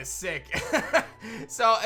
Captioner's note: chuckles